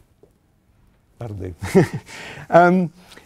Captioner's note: chuckles